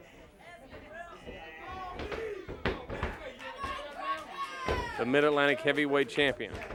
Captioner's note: crowd chatter